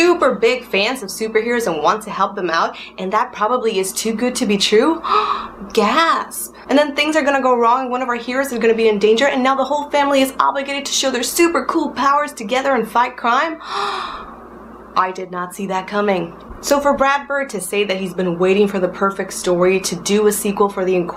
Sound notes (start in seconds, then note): 5.0 le gasp